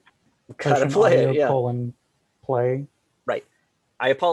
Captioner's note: murmurs